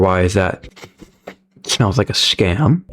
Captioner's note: sniffs